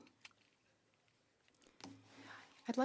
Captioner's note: speaking French